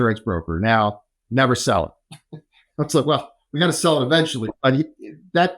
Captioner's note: laughs